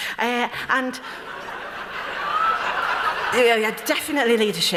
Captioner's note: laughter